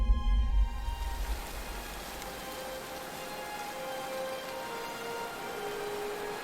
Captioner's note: waterfall crashing